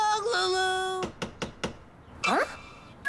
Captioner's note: knocking